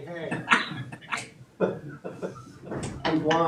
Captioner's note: laughing